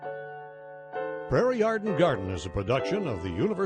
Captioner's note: voiceover